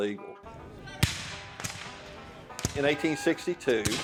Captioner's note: musket blasts